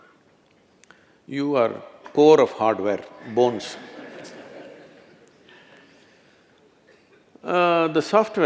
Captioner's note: laughter